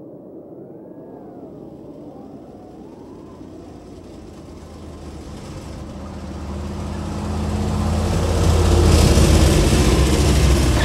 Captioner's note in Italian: sibili di vento; automezzo in avvicinamento